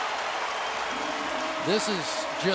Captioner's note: crowd cheering